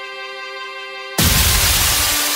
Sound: bolt of Lightning Strikes

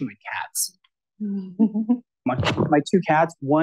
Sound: laughs

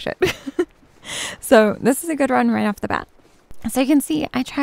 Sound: giggles

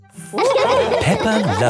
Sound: all laughing

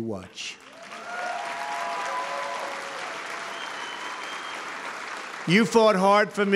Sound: applause

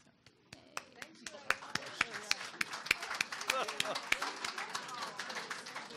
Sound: audience applause

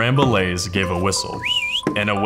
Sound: whistle

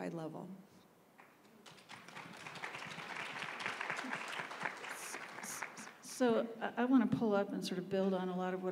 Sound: applause

